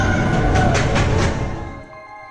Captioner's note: footsteps slamming; soft ethereal music